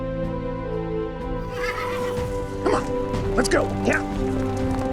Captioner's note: horse nickers